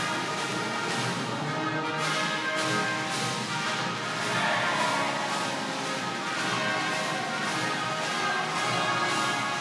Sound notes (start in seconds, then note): 4.0 attendees cheering